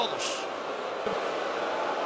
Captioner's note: applause